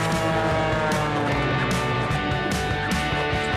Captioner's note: plane soaring